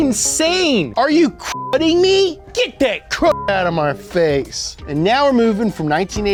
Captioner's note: beep; beep